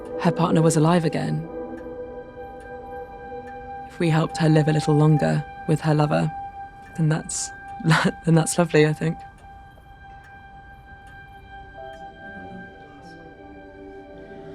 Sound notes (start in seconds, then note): 7.8 laughing; 11.9 serene music